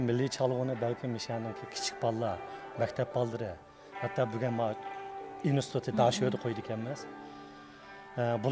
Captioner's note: speaking in Chinese